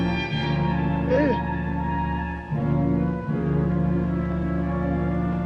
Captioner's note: Red Hawk grunts